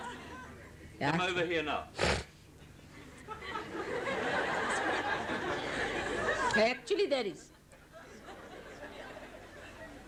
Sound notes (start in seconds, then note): 2.7 laughter